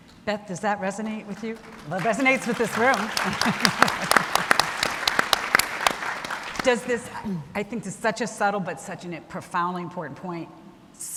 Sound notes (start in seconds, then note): 2.0 laughs; 3.3 everyone clapping